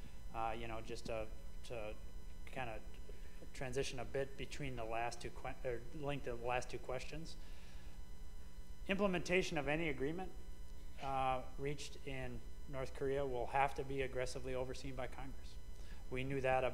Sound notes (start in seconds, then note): none